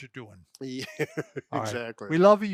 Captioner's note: laughing